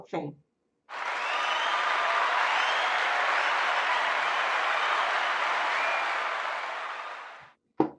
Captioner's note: cheers and Applause